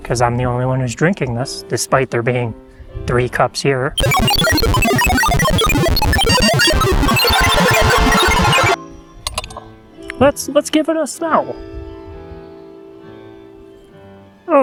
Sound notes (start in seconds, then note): 8.4 fanfare, applause, cheering